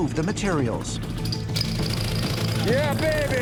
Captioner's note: jackhammer whirring